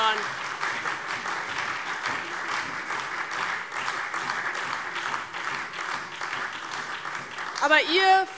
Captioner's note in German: Beifall DIE LINKE, vereinzelt CDU, BÜNDNIS 90/DIE GRÜNEN und SPD